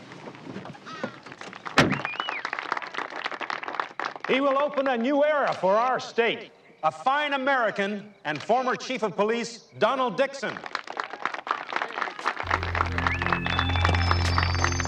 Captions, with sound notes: [trunk slams] [applause] He will open a new era for our state. A fine American, and former chief of police, Donald Dixon. [applause]